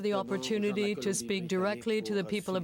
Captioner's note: speaking French